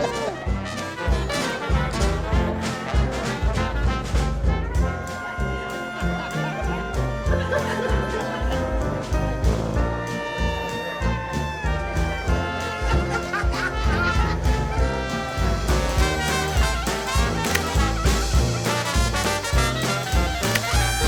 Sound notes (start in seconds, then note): 0.0 laughing; 0.2 lively music continues; 4.9 guests chattering; 5.9 guests laughing; 8.8 lively music continues; 12.7 child laughing; 17.3 camera shutter clicking